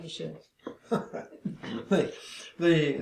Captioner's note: laughs